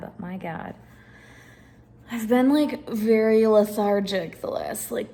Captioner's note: none